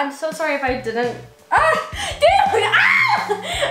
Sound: laughs

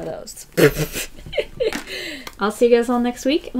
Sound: laughs

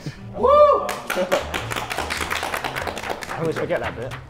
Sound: Sidemen clap

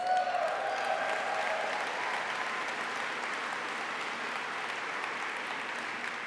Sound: applause

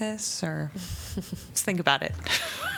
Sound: laughter

